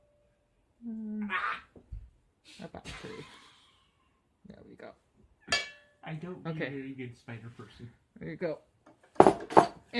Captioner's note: laughs